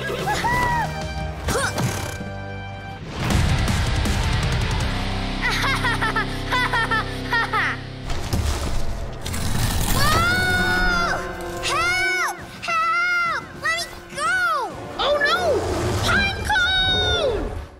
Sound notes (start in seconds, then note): 5.4 laughs